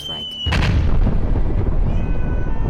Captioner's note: explosion